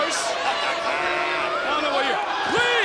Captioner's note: Booker laughs